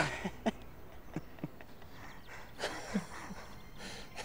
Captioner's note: men laughing